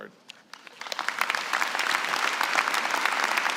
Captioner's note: applause